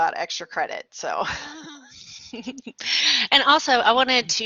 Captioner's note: laughter